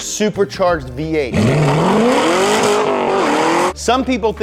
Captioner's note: car engine revving